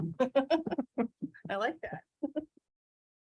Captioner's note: giggles